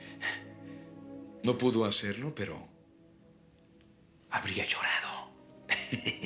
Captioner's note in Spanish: risos